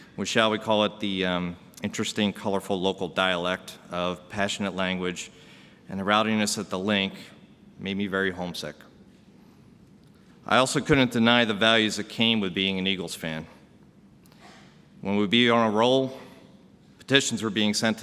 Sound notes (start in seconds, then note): none